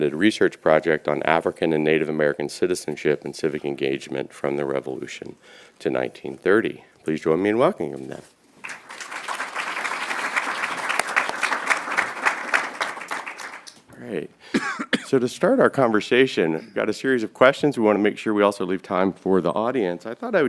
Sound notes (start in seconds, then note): 8.6 applause